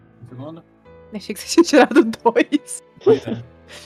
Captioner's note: laughing; laughs